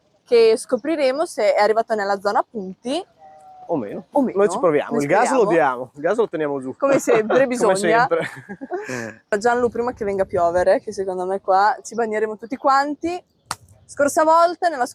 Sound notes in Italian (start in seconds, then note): 6.9 risate